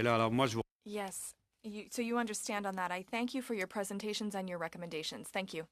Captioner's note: speaking French